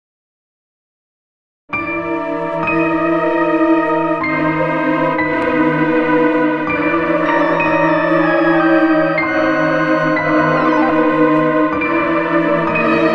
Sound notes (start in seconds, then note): 0.0 sound of creepy night